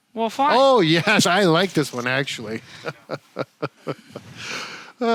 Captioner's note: chuckles